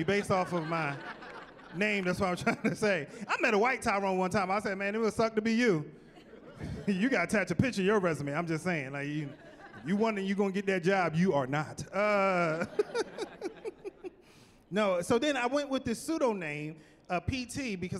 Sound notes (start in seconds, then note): 12.0 laughing